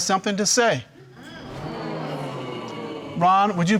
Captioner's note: audience murmuring